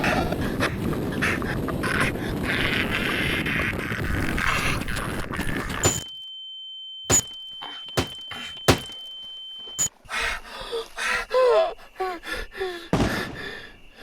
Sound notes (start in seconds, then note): 0.5 groaning; 6.1 camera bashing; 10.4 Keith hyperventilating; 12.9 distant gunshots